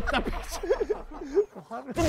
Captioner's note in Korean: ㅋㅋㅋㅋㅋㅋㅋㅋㅋㅋ